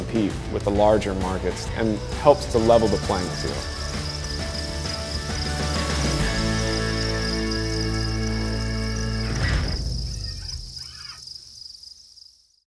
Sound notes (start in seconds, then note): 6.8 crickets chirping